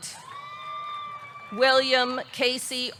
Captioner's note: audience cheering